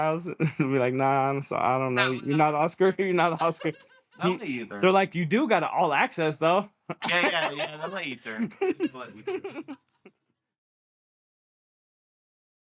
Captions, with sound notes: I'll be like, "Nah, I'm sorry. I don't know. You're not Oscar, you're not Oscar." Me either. They're like, "You do got all access though." Yeah, yeah, yeah. That's an a-turn. [LAUGHTER]